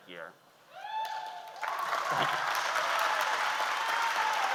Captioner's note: audience applauds